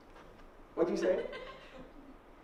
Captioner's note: laughter